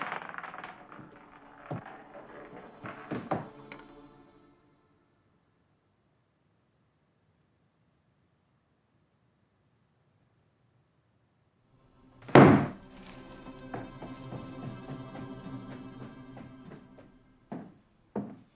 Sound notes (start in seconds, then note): 0.0 marble rattling; 0.3 dramatic orchestral music; 11.9 dramatic orchestral music; 12.3 cane stomping; 13.6 shoes tapping